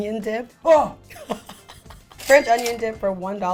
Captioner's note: laughs